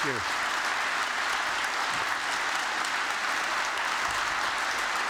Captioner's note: applause